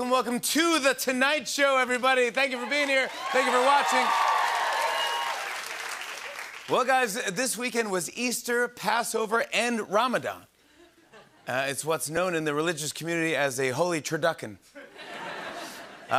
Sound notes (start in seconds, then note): 4.1 cheers and applause